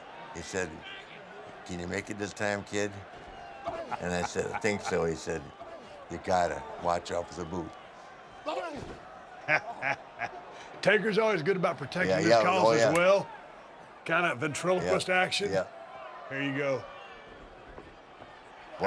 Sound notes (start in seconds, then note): 9.3 laugh